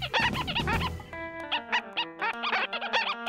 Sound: squeaking

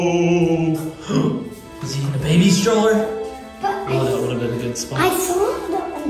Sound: gasps

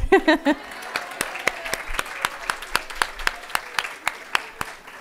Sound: audience applauding

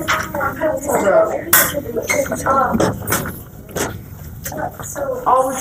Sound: students talking

